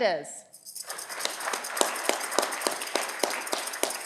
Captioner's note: audience clapping